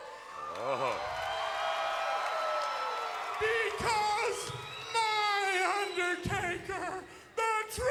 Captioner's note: applause